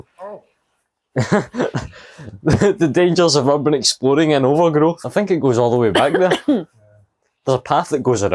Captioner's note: laughter